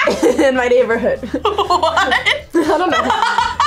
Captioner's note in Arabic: يضحك